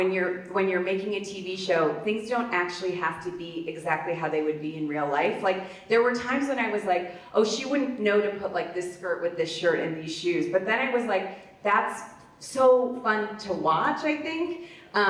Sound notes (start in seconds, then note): none